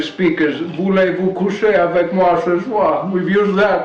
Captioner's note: speaks French